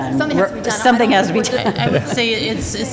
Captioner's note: laughter